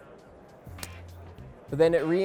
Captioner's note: click